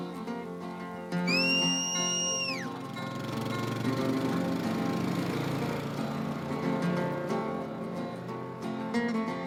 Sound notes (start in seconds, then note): 1.2 whistles